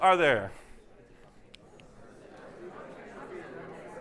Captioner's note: distant chatter